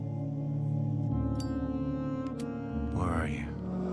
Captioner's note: lighter clicking